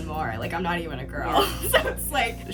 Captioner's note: laughs